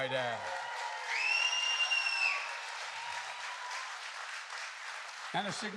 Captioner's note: applause